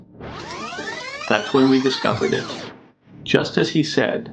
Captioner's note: recording squealing